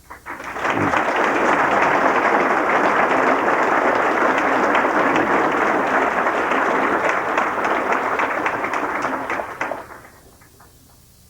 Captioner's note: warm applause